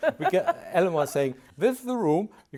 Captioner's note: laughs